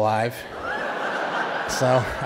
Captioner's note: audience laughing